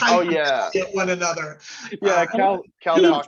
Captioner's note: laughs